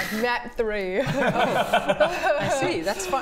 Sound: innocent giggles

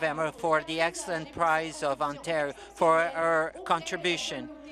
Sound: speaking French

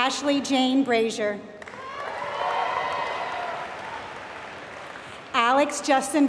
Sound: applause

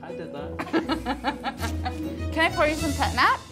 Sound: laughs

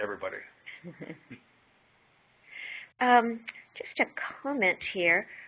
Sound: chuckling

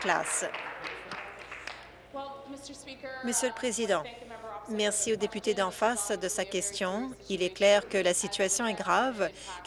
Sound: applause

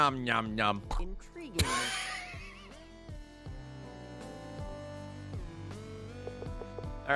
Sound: laughs

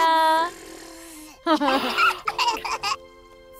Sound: baby cooing; Sim laughs

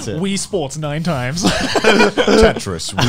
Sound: laughs

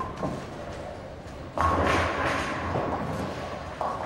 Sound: pins crash

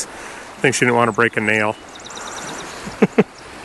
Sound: laughs

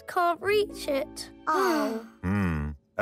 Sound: sighing

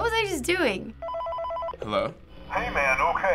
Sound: in game: phone rings

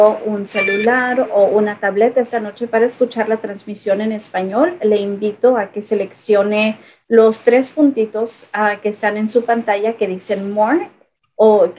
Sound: spanish

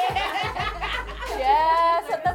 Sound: all laugh

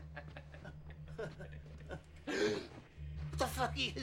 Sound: both chuckle

